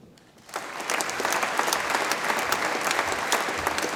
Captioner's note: audience applauds